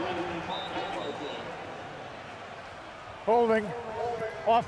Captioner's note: pa announcement